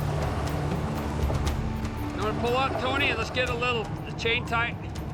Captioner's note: tire spinning